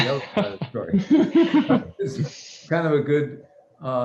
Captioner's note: laughter